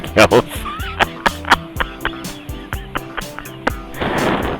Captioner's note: laughing